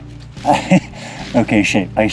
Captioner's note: chuckles